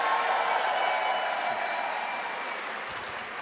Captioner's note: applause